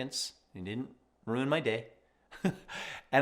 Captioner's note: chuckles